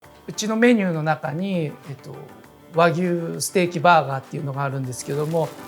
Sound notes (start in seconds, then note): 0.2 speaking Japanese